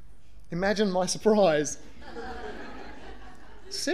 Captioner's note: audience laughter